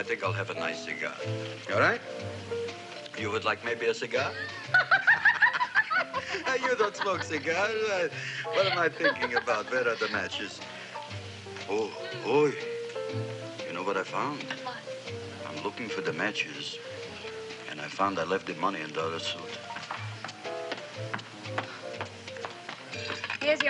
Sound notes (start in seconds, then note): 4.3 laughing; 8.0 chuckles; 20.1 relaxing music